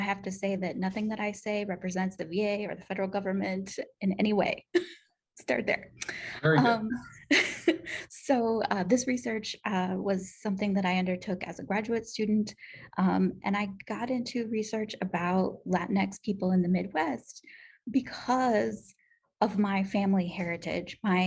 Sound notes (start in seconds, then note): 6.9 laughter